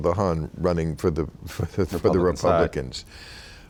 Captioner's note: laughing